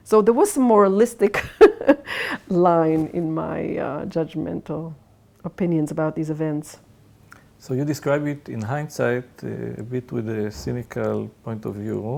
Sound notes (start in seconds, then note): 2.0 laughs